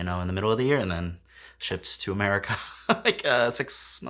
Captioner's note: laughs